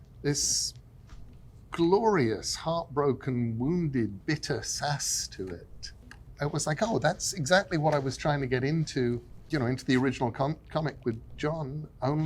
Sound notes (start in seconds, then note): none